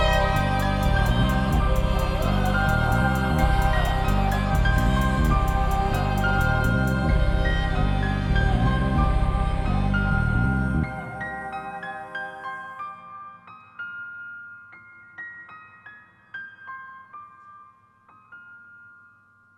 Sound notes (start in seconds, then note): 4.8 audience cheering